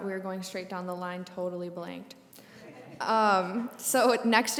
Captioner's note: brief laughter